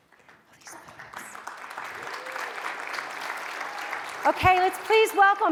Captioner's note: audience applauds